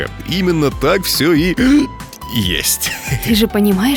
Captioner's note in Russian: икает